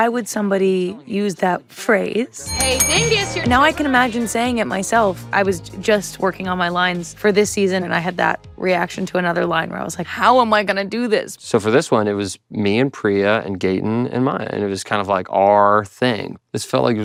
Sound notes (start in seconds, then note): 2.4 bell dings